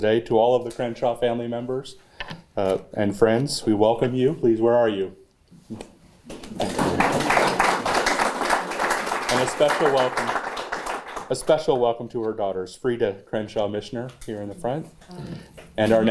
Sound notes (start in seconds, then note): 8.1 applause